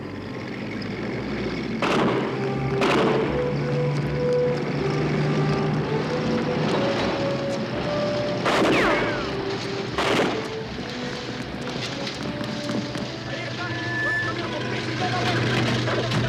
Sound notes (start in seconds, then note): 1.8 gunshots; 8.4 gunshots; 13.3 indistinct chatter